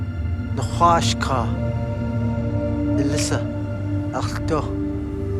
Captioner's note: speaking foreign language